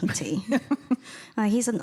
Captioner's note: chuckles